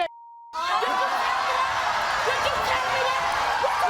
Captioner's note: audience erupts; beep